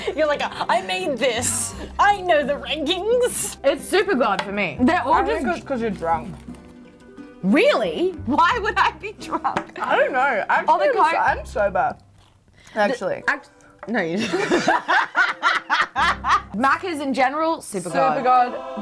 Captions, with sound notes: - You're like, I made this! I know the rankings! - It's super God for me. They're all just- - I think it's 'cause you're drunk. - Really? Why would I be drunk? - I don't know. - Oh, the coke. - Actually, I'm sober. Actually. - No, you're not. (both laughing) Macca's in general, super God. - Super God.